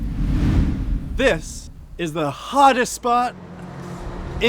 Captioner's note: wind blowing